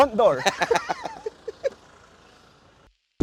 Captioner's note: laughs